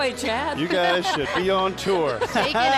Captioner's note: laughing